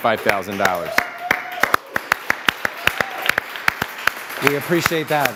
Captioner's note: applause, cheering